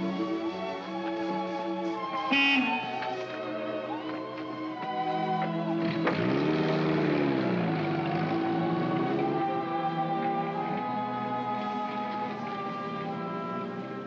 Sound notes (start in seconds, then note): 0.2 sentimental music; 2.1 jeep horn honks; 3.9 sentimental music; 4.9 jeep accelerates away; 5.7 sentimental music